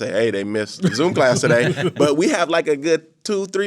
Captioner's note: laughing